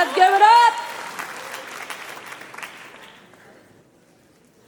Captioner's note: applause